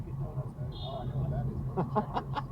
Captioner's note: car behind me honks at them